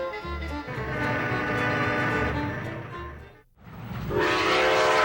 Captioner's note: train horn